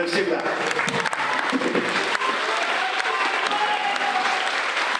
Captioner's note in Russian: аплодисменты и выкрики